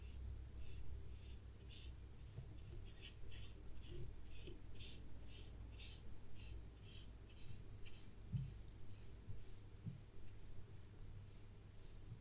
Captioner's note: drawing sounds